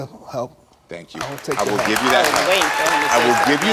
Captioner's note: audience applauds